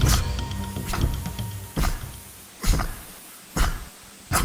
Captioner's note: Henri grunts